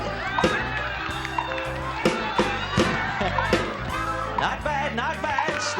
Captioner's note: cheering